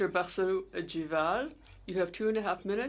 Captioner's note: speaking French